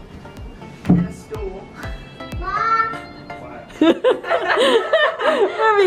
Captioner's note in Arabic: يضحك